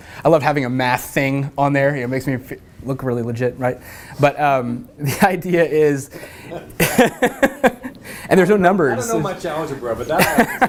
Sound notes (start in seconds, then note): 6.1 laugh; 9.9 laugh